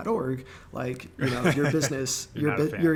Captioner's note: laughing